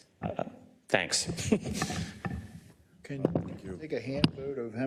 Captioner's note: laugh